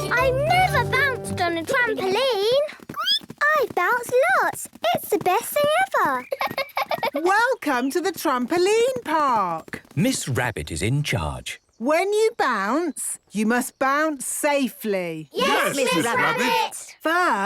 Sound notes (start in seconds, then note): 3.2 squeaks; 6.2 giggles